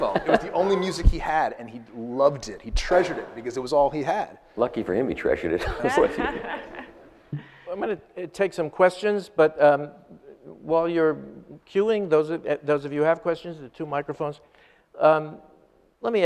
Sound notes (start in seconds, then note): 5.6 audience laughs